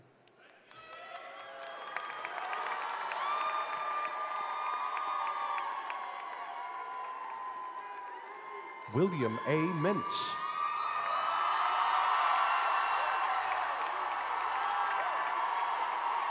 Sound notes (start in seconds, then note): 4.2 applause